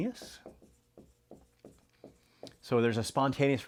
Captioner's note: pen scratching